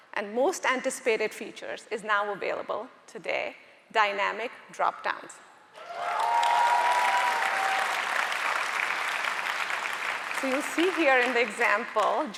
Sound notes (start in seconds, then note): 5.8 audience cheering and applauding